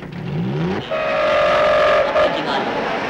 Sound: train Horn Sounding

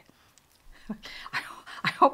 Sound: laughing

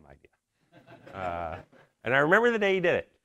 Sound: audience laughs

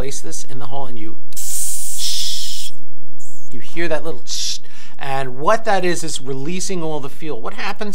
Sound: hissing sound

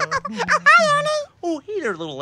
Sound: laughing

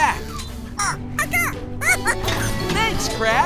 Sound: squeaking

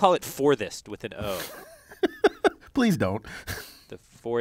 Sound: laugh

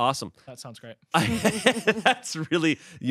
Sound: laughing

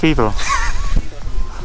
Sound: laughs

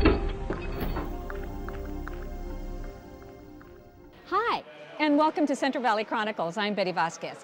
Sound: vault opening

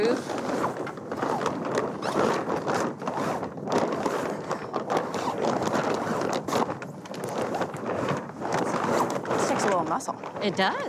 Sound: wind blowing against sails

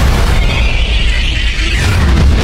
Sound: slow-mo quacking

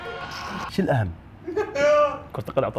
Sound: laughing

